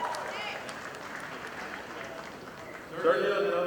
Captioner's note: audience applauding